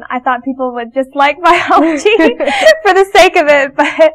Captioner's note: laughing